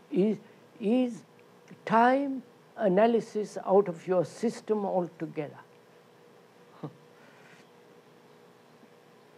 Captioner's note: laughs